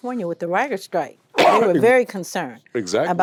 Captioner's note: coughs